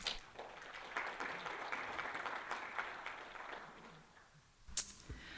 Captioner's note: applause